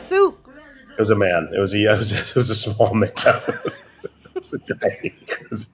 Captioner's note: laughter